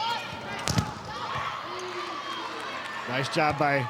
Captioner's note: players shouting indistinctly; ball thumping